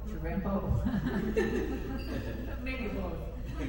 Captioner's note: all chuckle